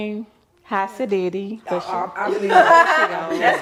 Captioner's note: others laughing